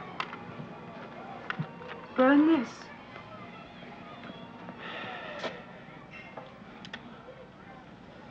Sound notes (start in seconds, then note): 4.8 Otto sighs